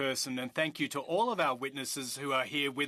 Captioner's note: speaking French